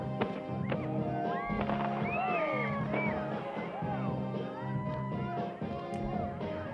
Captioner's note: fireworks exploding, crowd cheering